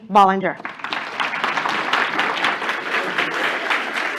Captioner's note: applause